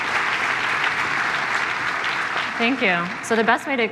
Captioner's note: applause